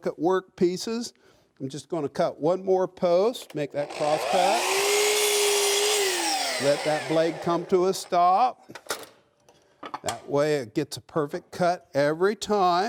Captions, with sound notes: I'm just going to cut one more post, make that cross cut, (blade roars) let that blade come to a stop. That way it gets a perfect cut every time,